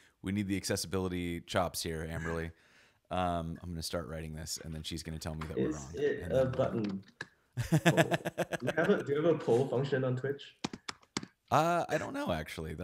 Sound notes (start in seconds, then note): 7.6 laughs